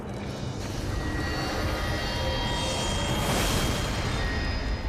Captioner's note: atmosphere whooshing